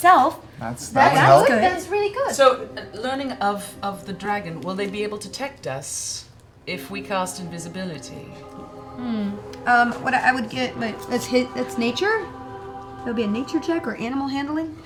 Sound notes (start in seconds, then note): none